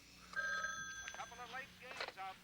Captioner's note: phone ringing